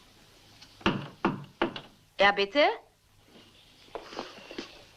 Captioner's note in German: Klopfen